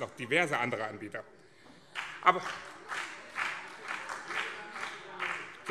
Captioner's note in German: Beifall BÜNDNIS 90/DIE GRÜNEN und CDU - Zurufe